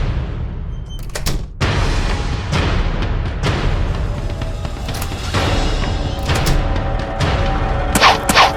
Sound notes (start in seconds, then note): 0.8 door closes